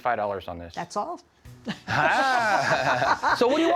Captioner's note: laughs